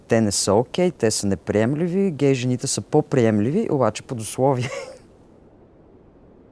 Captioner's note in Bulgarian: смее се